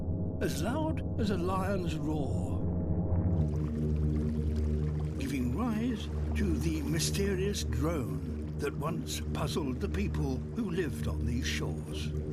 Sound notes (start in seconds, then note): 3.4 humming continues